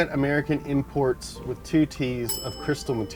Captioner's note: bell dings